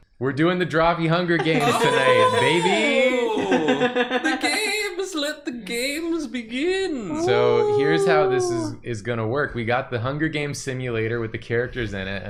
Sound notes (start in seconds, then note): 7.0 ooing